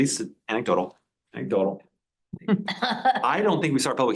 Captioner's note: laughs in the room